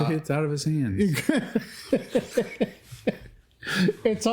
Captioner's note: laughter